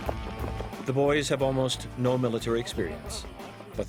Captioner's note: voiceover